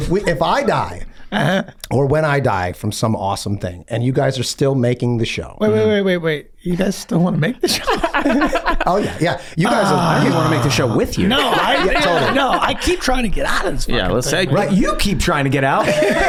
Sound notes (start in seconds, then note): 7.9 laughs; 8.3 groans; 15.7 gang laughing